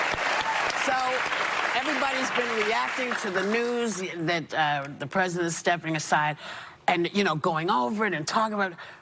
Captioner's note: cheers and applause